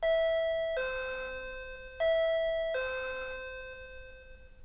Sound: door-bell rings again

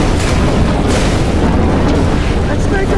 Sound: booming explosions

